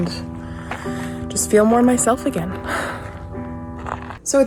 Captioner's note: sighs